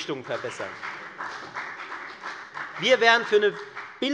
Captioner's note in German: Beifall bei der FDP